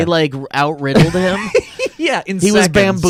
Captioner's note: laughs